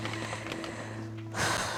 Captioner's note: breathing deeply